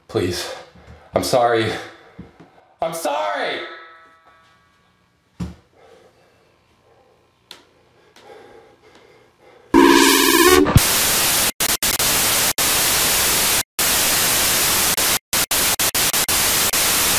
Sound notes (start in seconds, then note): 0.0 panicked breathing; 9.7 static; 9.8 loud ominous music